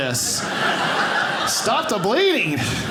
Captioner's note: audience laughing